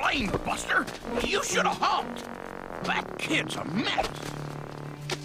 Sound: mutters to himself

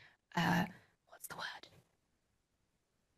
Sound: whispers

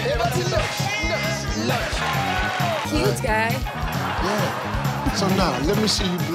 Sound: audience cheers

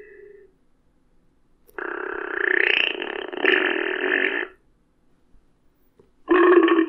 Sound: fart sound; repeated burp and fart sounds, some of which are osscilated in pitch

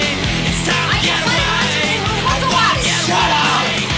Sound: Spanish spoken audio

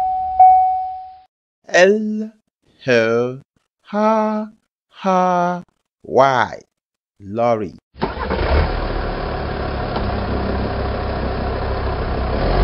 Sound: lorry Sound

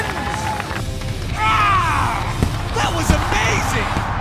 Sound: roars

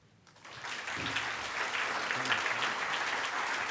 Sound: applause

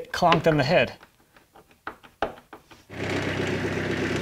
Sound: tool clinking; skid-steer rumbling

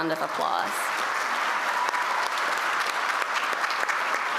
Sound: applause

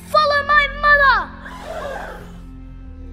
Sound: crowd gasps

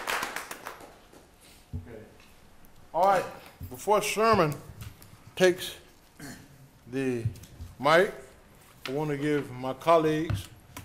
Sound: applause

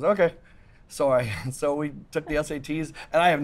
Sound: laughs

